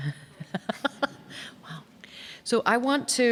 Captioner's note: laughing